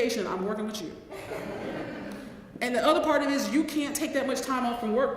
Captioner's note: laugh